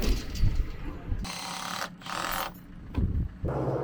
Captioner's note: drill whirring; motor humming